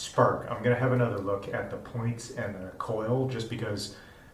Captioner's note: none